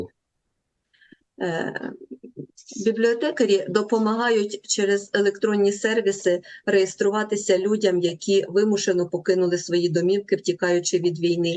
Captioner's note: foreign language